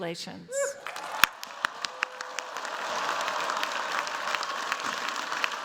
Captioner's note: cheers, applause